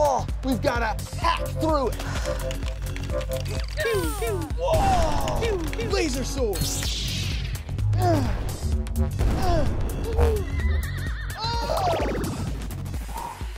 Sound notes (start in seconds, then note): 2.7 lasers pewing; 8.2 effort noises; 10.4 horse whinnying